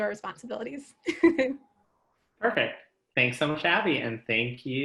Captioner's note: laughs